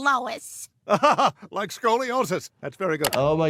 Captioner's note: laughs